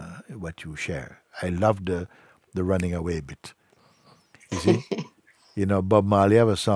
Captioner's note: Fragende lacht